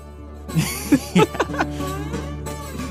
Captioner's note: laughs